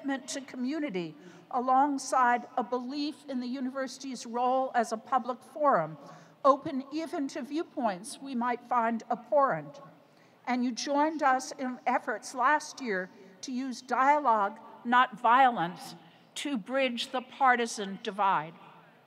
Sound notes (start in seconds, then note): none